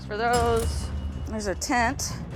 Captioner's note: cash register dings